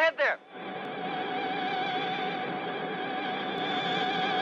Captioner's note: high-pitched humming